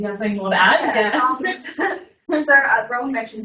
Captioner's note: laughs